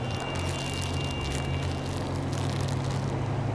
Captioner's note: bag crinkles